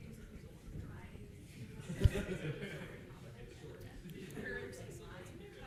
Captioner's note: participants chattering